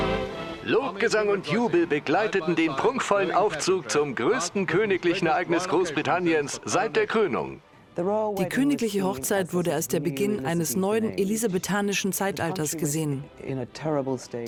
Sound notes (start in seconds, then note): 0.8 voiceover